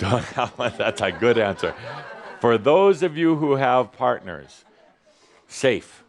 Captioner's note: a couple of chuckles